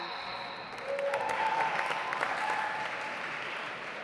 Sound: audience applauds

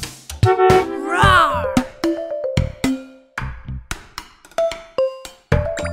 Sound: horn honking; lion roaring

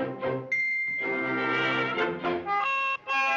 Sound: whistle; bugle sound

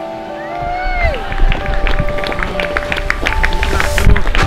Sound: crowd clapping

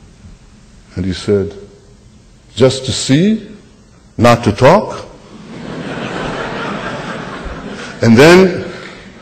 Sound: laughter

